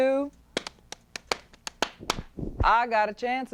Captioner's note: rhythmic clapping